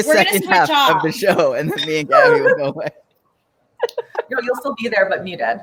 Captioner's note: laughs